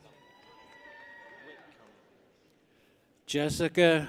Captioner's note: people cheer